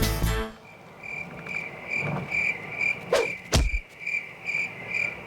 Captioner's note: country music; crickets chirping